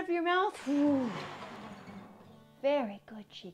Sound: 1. guitar slides down 2. deflates balloon